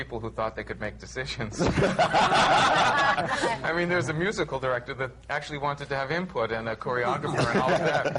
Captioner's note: laughter